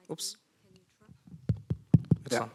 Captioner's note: tapping microphone